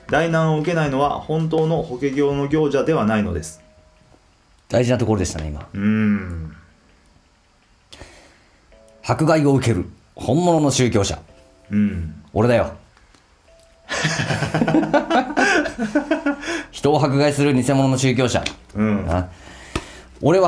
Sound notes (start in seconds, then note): 13.9 laughs